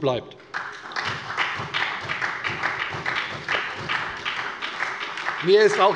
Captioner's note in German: Beifall bei der SPD